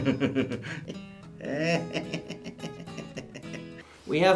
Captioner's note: laughs